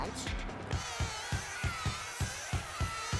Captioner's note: bees buzzing